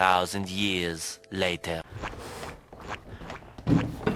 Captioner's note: squelching